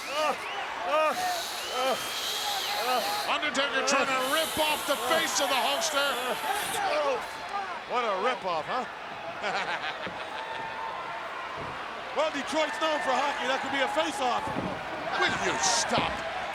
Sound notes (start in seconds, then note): 9.4 laugh